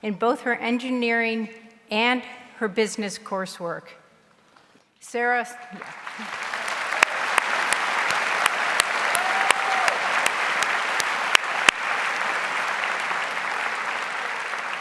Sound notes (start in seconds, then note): 6.3 audience applauds